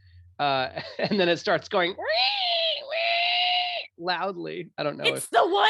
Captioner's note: squeals